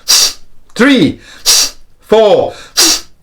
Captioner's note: deep breaths